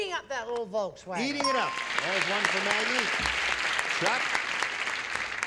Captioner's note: ding